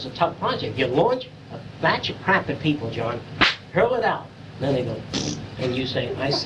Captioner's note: fart sound